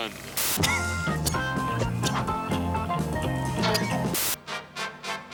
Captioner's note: coughs